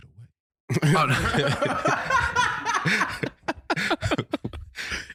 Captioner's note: laughing